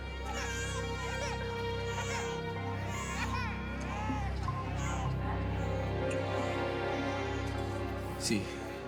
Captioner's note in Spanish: Llanto de los bebés